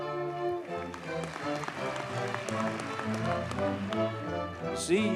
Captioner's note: audience cheers and applauds